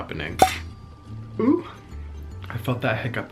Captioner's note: cork pops